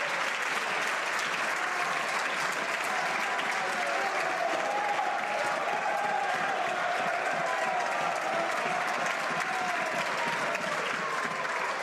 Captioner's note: some Applause